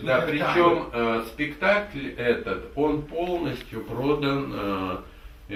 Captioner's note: speaks in the Russian language